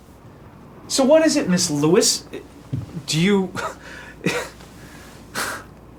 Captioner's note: laughing